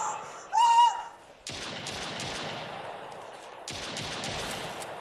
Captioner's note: gunshots